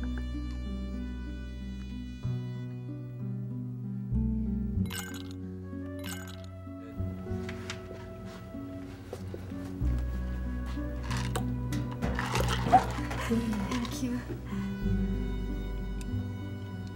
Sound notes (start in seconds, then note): 0.0 evil music; 6.0 ice filling glass; 11.9 ice dropping into juice; 13.1 Veronica giggles